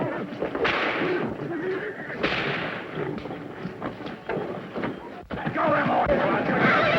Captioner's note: whip cracking